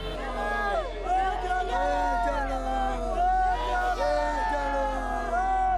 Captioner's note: shouts in foreign language